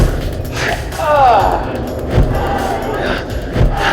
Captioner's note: David yelling